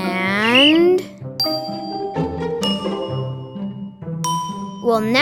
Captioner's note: ding sounds